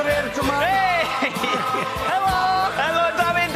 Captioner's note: cheering